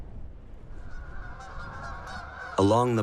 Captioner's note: geese honking